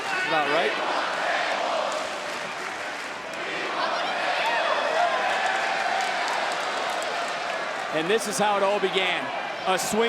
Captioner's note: applause